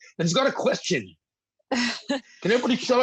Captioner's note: laughs